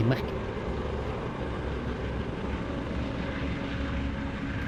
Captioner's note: propellers whirring